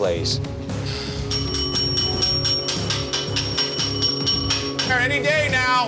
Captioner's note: bell ringing